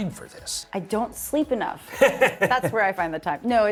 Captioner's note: laughs